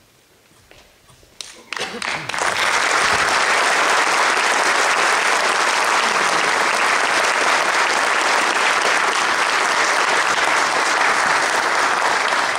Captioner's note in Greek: Παρατεταμένα χειροκροτήματα από το ακροατήριο